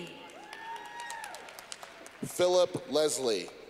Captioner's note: clapping